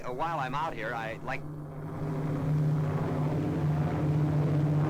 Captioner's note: engines drone